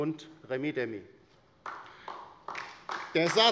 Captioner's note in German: Beifall bei der LINKEN